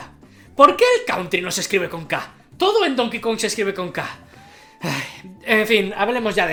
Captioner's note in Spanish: suspiro